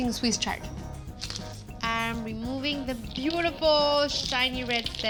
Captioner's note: leaves crunching